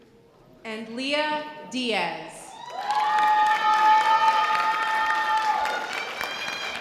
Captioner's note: sustained audience cheering